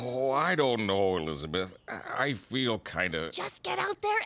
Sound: hiccupping

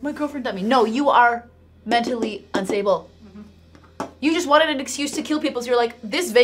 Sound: taps

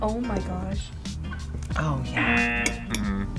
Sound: buzzer

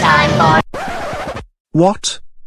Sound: disc Scratch

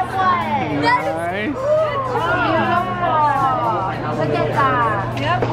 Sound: excited exclaiming

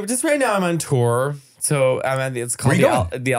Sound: foreign language

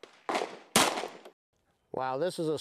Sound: bang

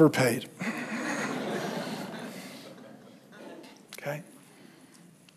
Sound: congregation laughs

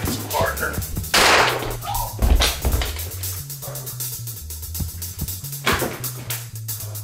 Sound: gunshot fires

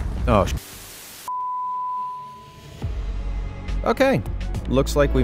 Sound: volcano roaring; graphic beeping; upbeat music

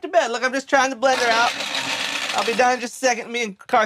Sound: blender whirring

